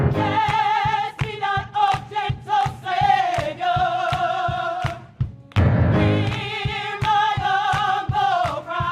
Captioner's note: applause